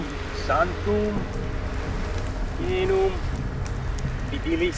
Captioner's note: speaking Latin